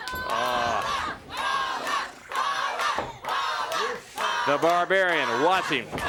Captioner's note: crowd cheering